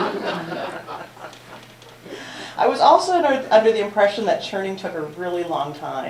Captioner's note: laughter